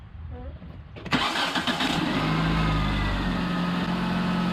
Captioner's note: engine running